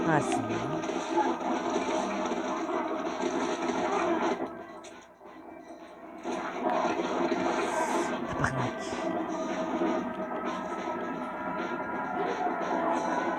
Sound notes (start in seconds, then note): 3.1 music and zombies scream; 7.8 stressed sigh; 11.1 music and zombies scream